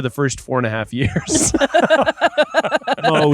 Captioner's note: laughing